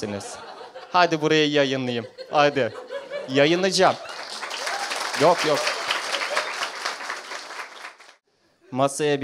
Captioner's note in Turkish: alkiş